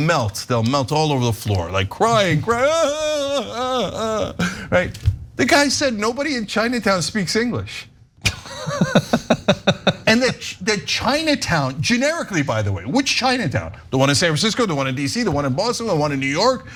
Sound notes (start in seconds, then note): 8.2 laugh